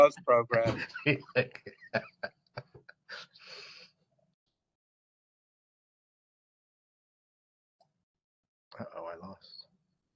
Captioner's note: laugh